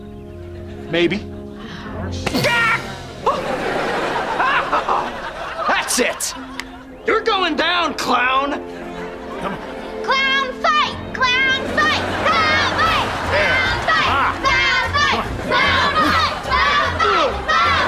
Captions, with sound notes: Maybe. [shrieking] O-Oh, that's it. You're going down, clown. Come on. Clown fight! Clown fight! Clown fight! Clown fight! Clown fight! Clown fight! Clown fight! Clown fight!